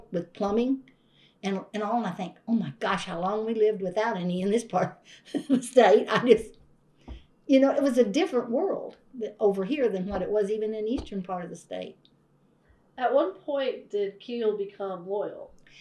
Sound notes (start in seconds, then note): 5.2 laughs